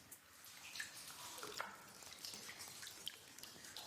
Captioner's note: water trickling